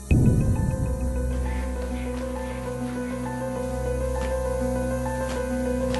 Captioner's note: sliding across floor